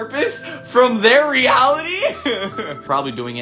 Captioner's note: chuckles